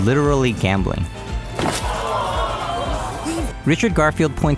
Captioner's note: audience surprised